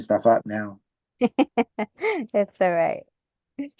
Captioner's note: laughs